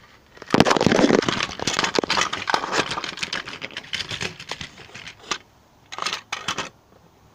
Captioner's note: crash